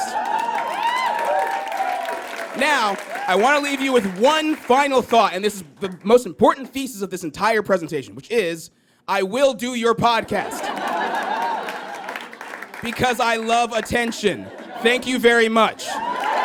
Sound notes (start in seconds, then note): 0.0 audience cheers and applauds; 10.2 audience laughs and applauds